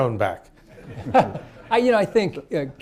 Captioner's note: laughter